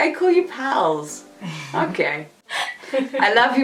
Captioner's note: chuckles; laughs